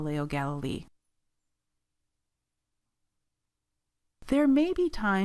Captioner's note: silence